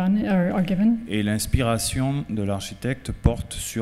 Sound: speaking french

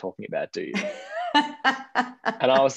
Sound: laughing

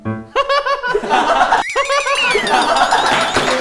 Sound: hahahaha

